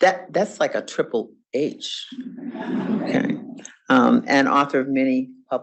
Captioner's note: audience laughs